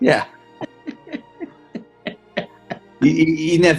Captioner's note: chuckling